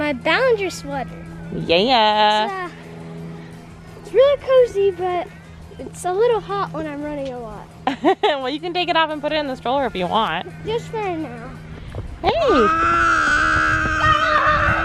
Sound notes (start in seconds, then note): 7.8 laughs; 12.6 grizzling; 14.2 another child yells in the background